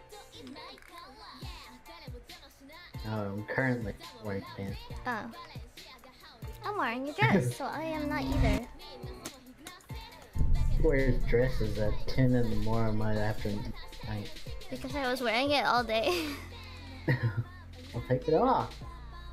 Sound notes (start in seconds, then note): 16.8 chuckles